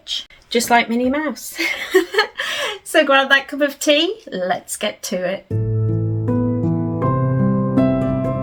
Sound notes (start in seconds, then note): 1.6 giggles; 5.5 gentle folk music plays